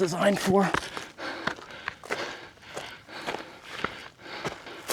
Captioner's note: footsteps